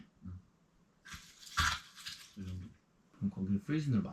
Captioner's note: ice scraping sound